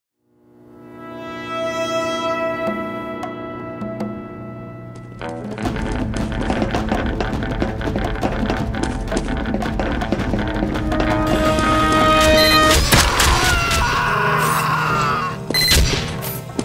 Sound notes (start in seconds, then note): 12.3 beep.. Shot Shot Shot; 14.1 death Scream